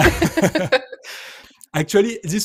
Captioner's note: laughter